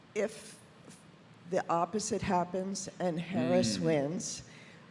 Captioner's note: none